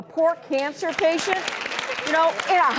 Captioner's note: audience applauds